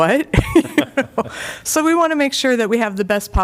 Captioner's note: laughter